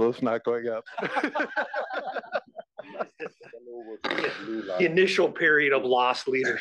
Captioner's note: laugh